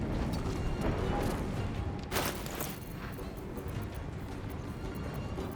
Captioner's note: none